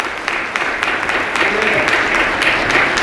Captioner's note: applause